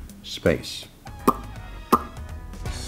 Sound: lively jazz music; smacks lips

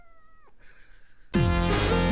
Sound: laughter

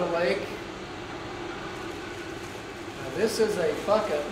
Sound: engine and equipment noises

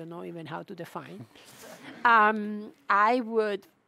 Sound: audience chuckles

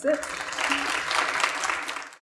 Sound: clapping

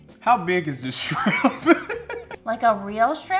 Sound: laughs

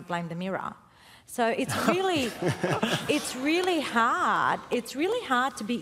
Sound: laughter

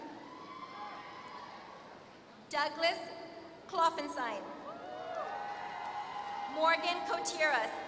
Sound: applause

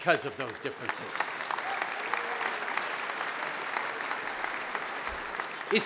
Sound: applause

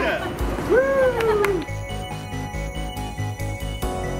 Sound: clapping; upbeat music

